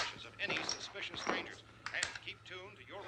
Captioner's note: radio